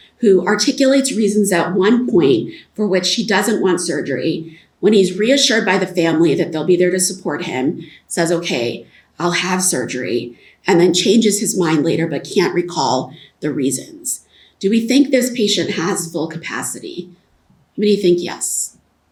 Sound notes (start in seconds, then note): none